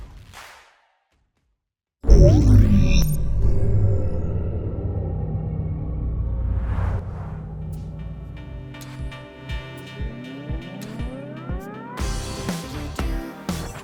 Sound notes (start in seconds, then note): 2.0 dramatic intro sound; 10.3 upbeat music playing